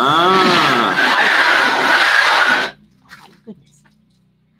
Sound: loud whooshing sound

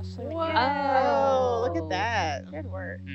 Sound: all exclaim

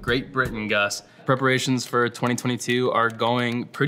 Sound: keyboard taps

